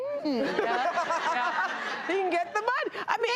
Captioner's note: audience laughs